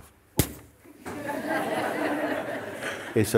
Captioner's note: laughter